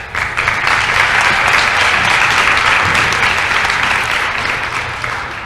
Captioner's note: applause